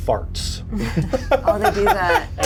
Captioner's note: players chuckle